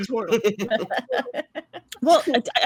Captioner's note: cast laughing